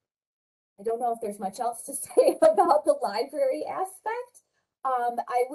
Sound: laugh

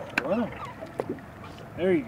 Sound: reel cranking; squeaking

